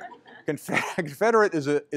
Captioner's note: laughter